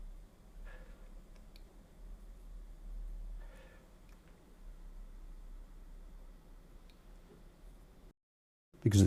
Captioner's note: silence